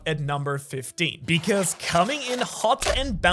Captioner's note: rubber band SFX